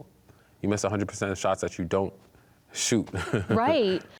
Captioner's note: chuckles